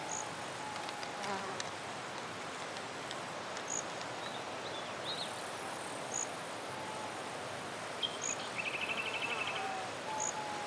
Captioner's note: nature sounds